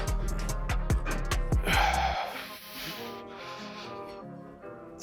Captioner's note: Jay breathing deeply